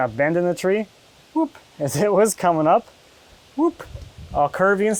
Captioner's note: laughing